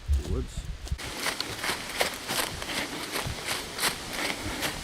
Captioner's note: leaves crunching